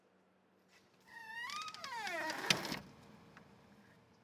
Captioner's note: door creaking